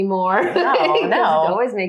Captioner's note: laughing